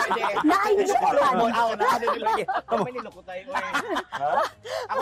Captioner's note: laughing